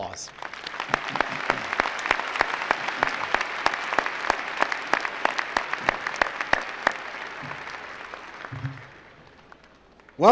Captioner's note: applause